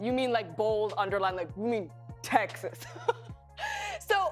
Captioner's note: chuckles